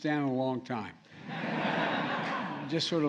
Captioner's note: laughter